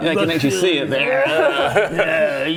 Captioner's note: lecherous laughs